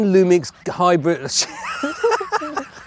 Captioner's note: laughing